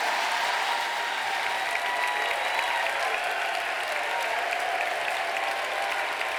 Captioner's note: applause